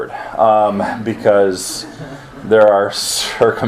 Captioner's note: students chuckle